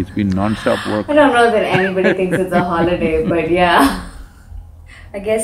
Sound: laughs

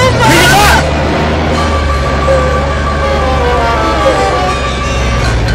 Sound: Emman whimpering

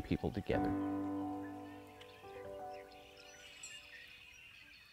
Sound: birds chirping

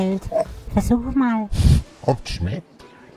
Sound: sniffing

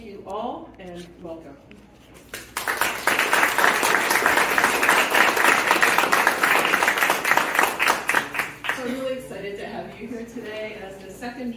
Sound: appaluse

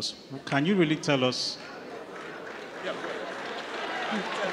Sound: audience chattering

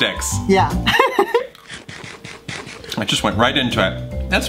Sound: laughs

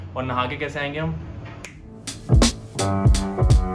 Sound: snaps fingers

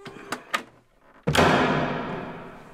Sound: door slam

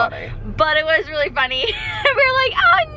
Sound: laughs

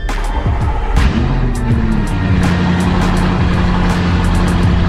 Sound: engine rumbling

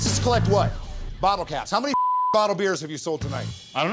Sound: beep

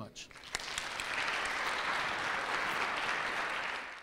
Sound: audience claps

